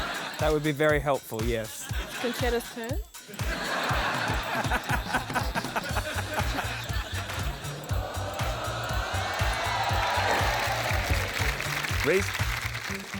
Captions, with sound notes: That would be very helpful. Yes. Concetta's turn. (LAUGHTER) (CHEERING, APPLAUSE) Rhys.